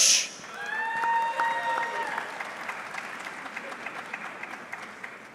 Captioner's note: audience clapping